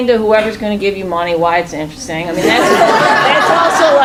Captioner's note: laughing